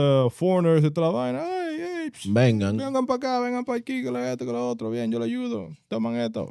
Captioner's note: speaking In Foreign Language